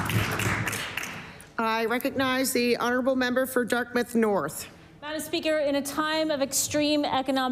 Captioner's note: applause